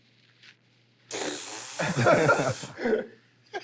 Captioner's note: imitates explosion; laughter